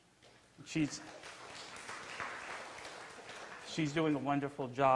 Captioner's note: clapping